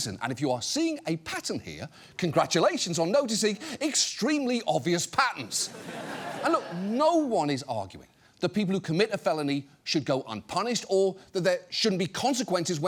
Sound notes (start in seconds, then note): 5.6 audience laughs